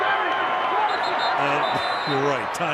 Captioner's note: whistle